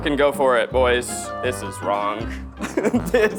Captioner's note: laughing